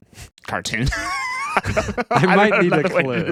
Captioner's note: laughing